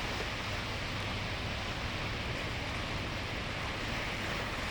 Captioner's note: water rushing